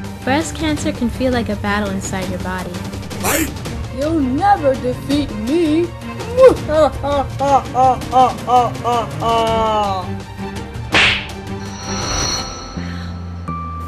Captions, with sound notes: Breast Cancer can feel like a battle inside your body. You'll never defeat me! [evil laugh] [slap] Owww...